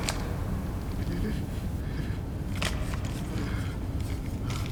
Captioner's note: shivering